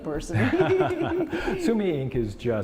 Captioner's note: laughing